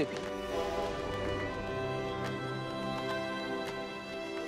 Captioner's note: train whistle blows